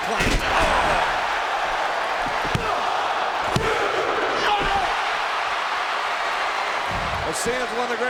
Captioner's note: applause